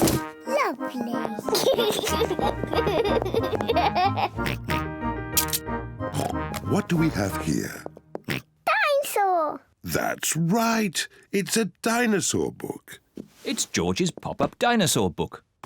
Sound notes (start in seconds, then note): 1.4 giggles; 4.4 oinks; 6.1 oinks